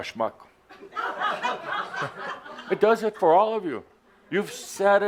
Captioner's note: laughter